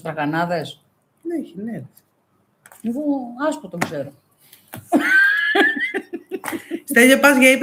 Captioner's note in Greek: γέλια